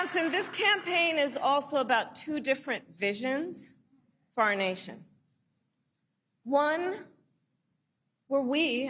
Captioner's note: applause